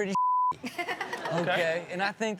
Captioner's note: Chanel and audience laughing